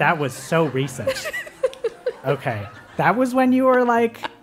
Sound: laugh

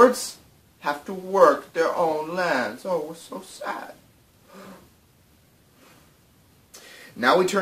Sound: mock gasps

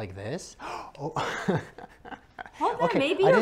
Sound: laughing

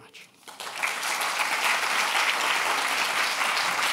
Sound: applause

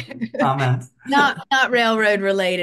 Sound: laughs

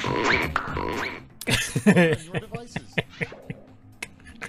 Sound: laff

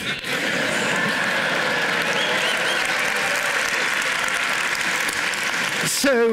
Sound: cheering, applause

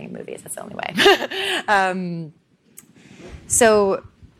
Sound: laughing

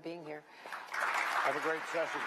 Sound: applause

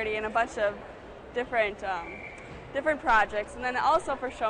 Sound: none

